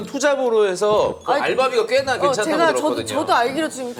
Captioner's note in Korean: 꼴깍